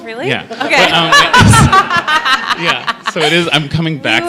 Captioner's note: laughter